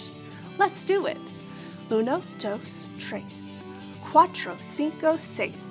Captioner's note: speaking in foreign language